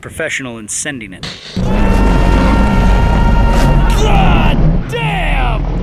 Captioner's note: screaming